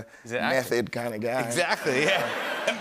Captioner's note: laughter